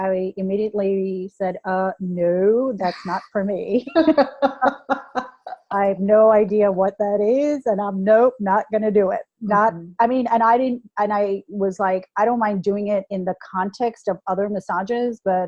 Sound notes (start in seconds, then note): 4.0 laughter